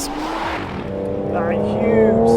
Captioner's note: car zooming